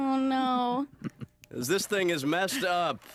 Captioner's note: laughs